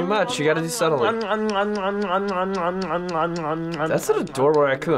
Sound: voice-over

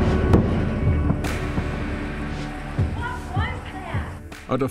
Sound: sonic Boom

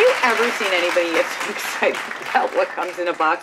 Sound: applause

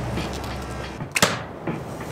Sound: arrow impacts

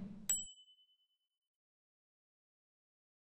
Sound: ding; whoosh

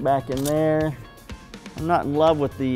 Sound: click of camera

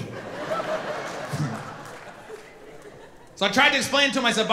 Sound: audience laughing

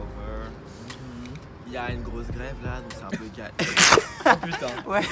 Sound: laughs

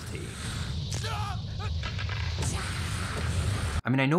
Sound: screams

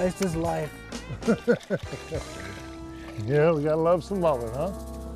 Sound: laughter

